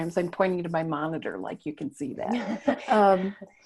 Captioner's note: laughing